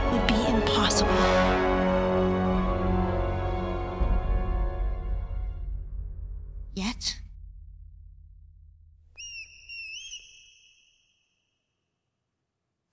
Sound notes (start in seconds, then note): 9.1 squeaking